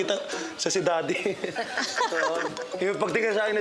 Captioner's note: laughing